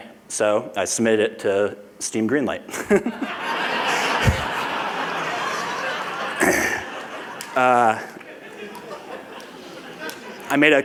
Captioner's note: laughter